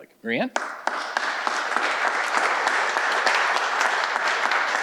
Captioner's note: audience applauding